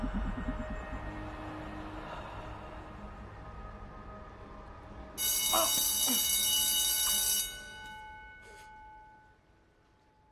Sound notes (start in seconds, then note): 5.2 school bell ringing